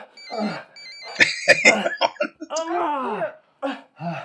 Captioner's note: chuckling